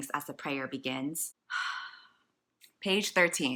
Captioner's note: sigh